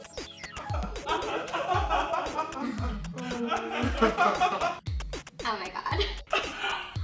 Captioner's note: laughing